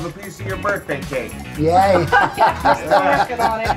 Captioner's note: laughs